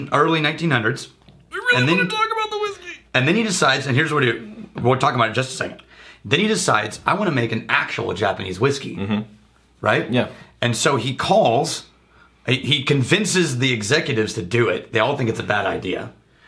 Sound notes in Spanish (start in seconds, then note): 1.1 En una voz alta